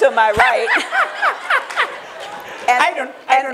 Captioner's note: laughter